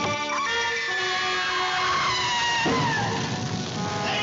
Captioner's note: Amy Screaming